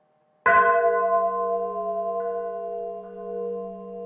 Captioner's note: none